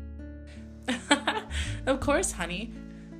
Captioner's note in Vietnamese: cười